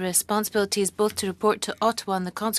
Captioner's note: speaking French